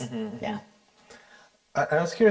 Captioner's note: assents